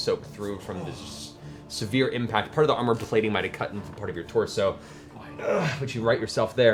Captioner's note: grunts